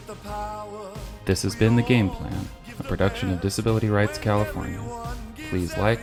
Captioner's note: triumphant music fades in; voiceover